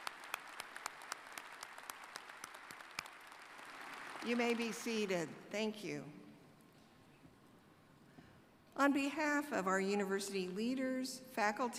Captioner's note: applause